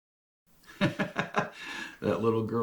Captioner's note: laughs